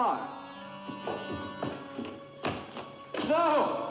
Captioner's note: Andre's footsteps